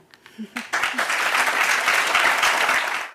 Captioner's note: applause